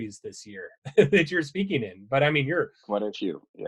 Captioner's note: laughing